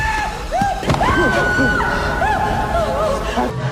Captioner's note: shout